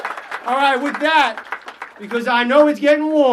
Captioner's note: applause